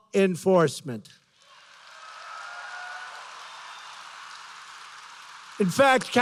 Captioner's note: applause